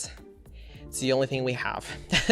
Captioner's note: laughs